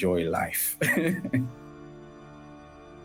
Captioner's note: laughter